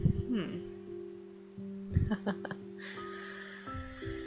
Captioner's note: laughs